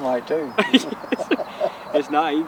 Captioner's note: laughing